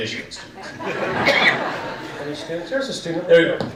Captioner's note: audience laughing